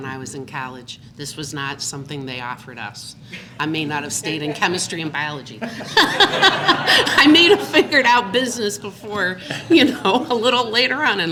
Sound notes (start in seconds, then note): 5.6 laughter